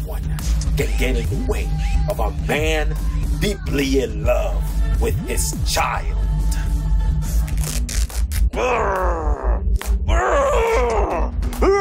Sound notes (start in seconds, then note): 7.4 shirt rips; 8.5 Papi grunts